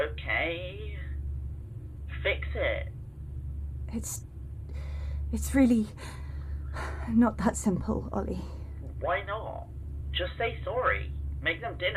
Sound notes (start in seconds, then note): 4.6 breathless